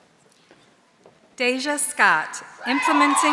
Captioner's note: audience cheering